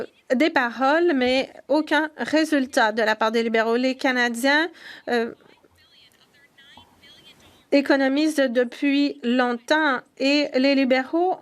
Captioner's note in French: voix de l'interprète